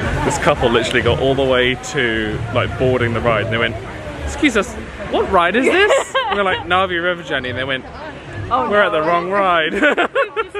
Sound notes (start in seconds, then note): 5.5 laughing